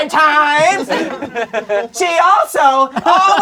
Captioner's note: crowd laughing